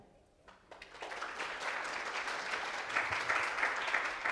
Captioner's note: attendees applaud